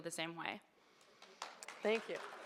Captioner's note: audience applauds